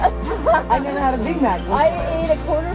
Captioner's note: both laugh